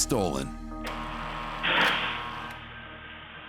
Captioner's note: door buzzes